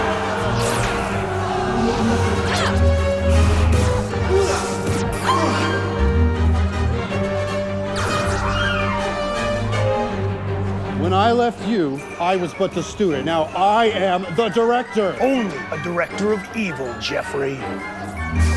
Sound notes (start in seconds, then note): 0.1 phaser firing; 0.5 light saber hissing; 1.4 groans; 3.3 light saber hissing; 4.5 groans; 5.2 gasps